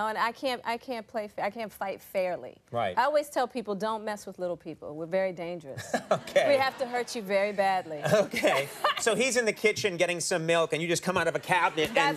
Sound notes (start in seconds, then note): 5.8 Conan and audience laughing